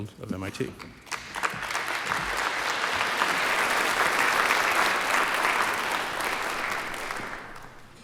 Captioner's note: applause